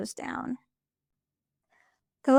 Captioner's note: pause